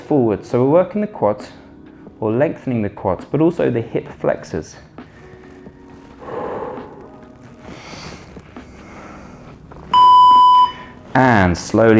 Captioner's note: groaning